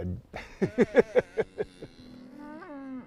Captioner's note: laughs